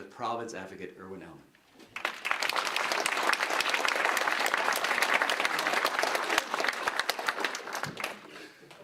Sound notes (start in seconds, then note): 1.9 applause